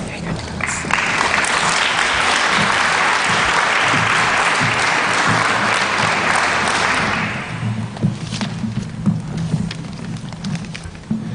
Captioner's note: applause